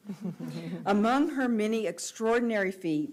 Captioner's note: audience laughs